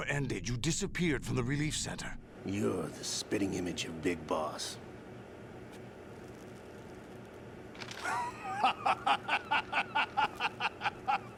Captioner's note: laughs